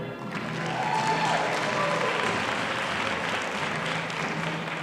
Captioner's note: audience applauding